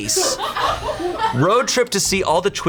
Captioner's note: colleagues laughing